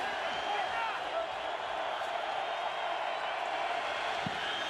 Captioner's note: crowd cheering